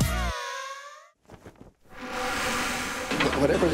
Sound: flag flutters

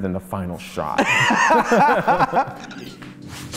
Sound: laughing

